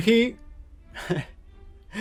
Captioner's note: lovingly laughs